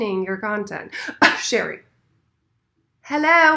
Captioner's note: coughs